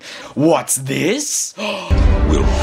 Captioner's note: heavy breathing